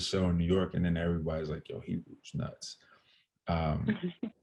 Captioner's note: laughter